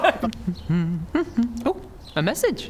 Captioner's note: humming